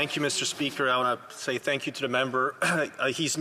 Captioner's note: speaking French